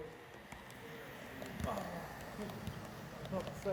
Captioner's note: faint motor sounds with beloved clickity clacking